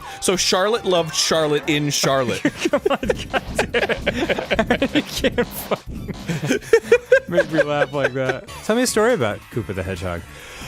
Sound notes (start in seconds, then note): 2.3 giggling; 2.3 both giggling; 6.3 starts laughing